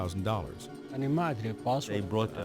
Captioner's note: speaks in foreign language